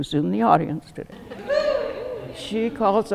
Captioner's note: audience cheering